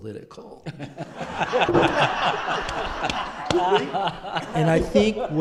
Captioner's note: laughter